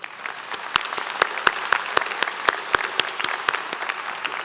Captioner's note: applause